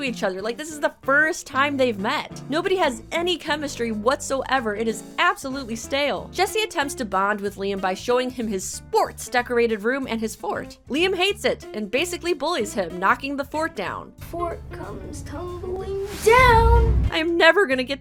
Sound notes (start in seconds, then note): none